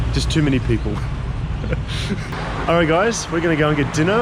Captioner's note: laughs